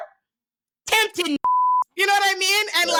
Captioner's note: beep